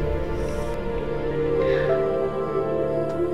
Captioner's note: Sighs